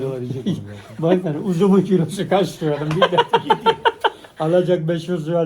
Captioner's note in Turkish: kahkaha